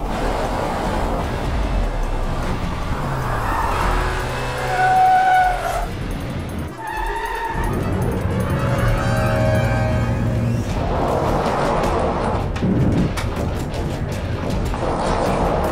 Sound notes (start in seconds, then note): 4.2 tires screeching; 10.3 heavy metal music